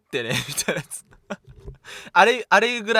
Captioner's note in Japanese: 笑い